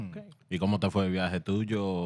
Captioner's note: speaking Spanish